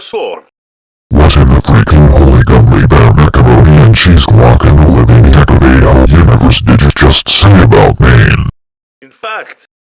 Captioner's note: yelling